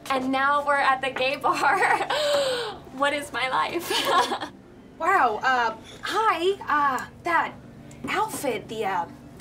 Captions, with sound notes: And now we're at the gay bar. (awkward laugh) What is my life? HA! Wow, uh, hi! Uh - that outfit...